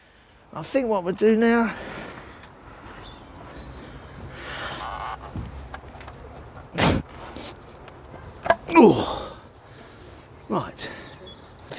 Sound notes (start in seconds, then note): 8.7 grunts